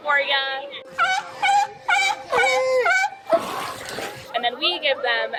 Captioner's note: seal bleating